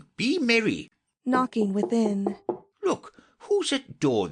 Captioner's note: knocking within